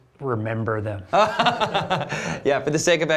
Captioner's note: laughter